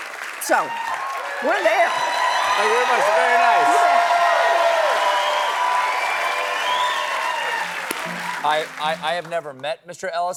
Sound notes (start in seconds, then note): 4.5 cheers and applause